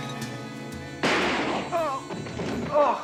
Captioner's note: gun fires; groaning